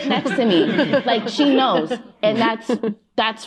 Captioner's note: laughter